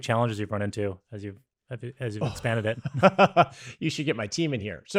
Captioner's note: laughs